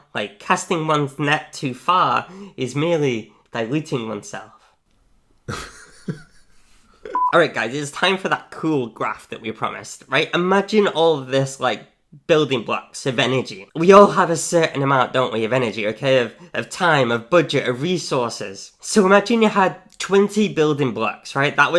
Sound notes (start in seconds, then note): 5.4 laughs